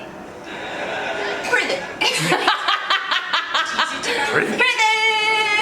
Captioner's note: laughs